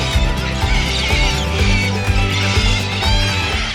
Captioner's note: birds chirping